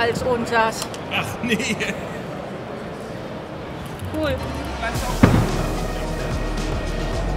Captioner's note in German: lacht